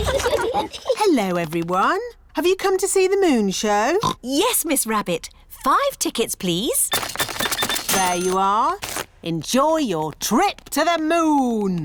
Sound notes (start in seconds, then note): 4.0 oinks